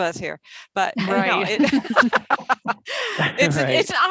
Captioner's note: laughs